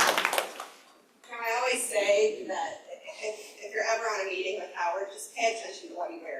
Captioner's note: applause